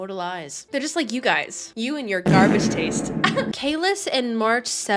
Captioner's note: giggles